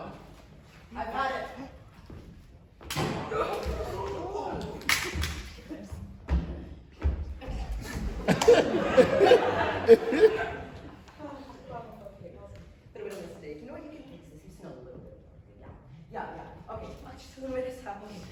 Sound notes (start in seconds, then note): 2.8 gunshot